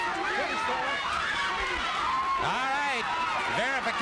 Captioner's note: crowd yelling